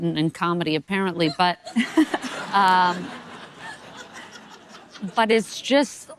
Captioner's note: audience laughing